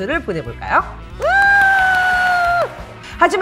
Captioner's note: clapping